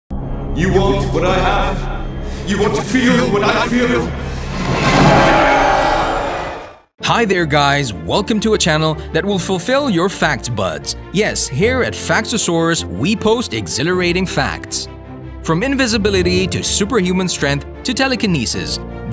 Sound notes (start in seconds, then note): 4.8 scream